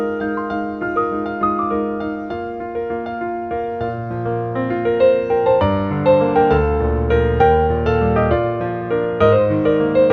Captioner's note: garden full of wind and birdsong